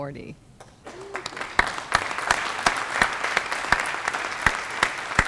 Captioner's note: applause